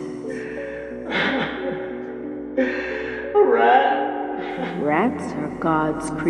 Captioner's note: crying